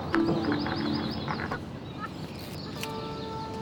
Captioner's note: click